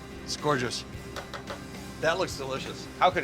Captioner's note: spatula taps